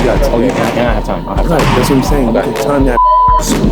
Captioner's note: beep